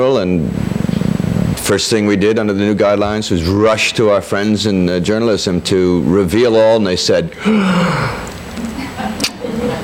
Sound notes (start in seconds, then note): 7.3 yawns